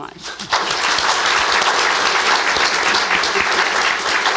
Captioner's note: audience clapping